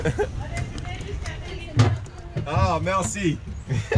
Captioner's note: laughs; passengers speaking in French; laughs